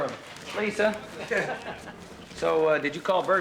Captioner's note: chuckles